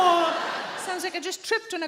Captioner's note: audience laughing